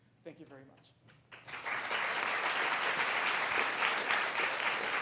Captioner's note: audience applauding